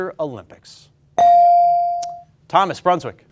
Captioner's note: ding chimes